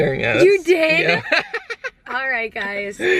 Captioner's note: laughter